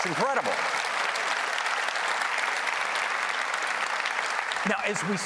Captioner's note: applause